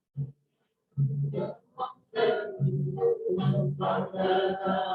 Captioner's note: non-english speech